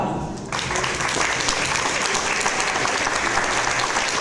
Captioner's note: audience applause